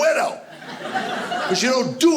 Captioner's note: audience laughing